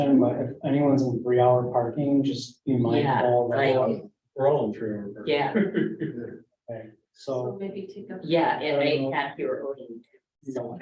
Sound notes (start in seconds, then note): 5.5 laughs